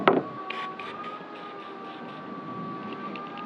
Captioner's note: hissing